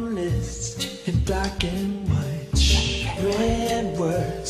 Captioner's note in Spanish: Shhh